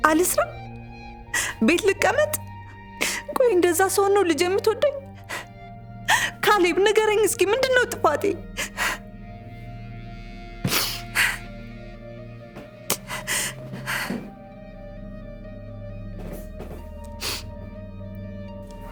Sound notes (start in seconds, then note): 10.9 crying